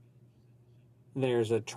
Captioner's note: speaking French